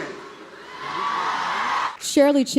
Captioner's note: crowd cheers